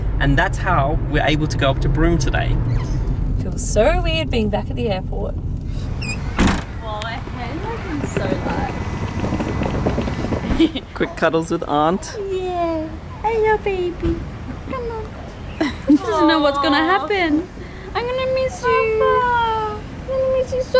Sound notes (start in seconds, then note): 7.1 distant chatter